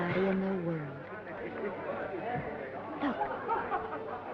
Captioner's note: attendees chattering